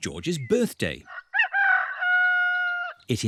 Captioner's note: roster crows